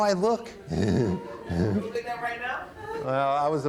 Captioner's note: chuckles; speaking off microphone